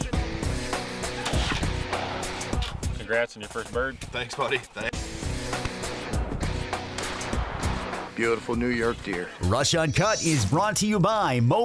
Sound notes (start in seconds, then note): 1.2 gunshot; 6.9 gunshot